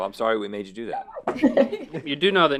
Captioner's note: laughs